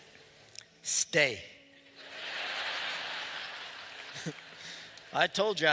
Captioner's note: laughter